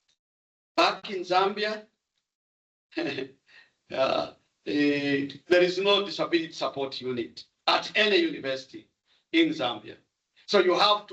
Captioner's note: chuckles